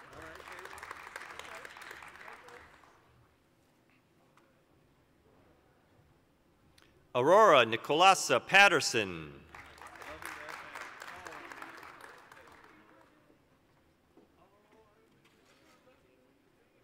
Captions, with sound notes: (applause) Aurora Nicholasa Patterson. (applause)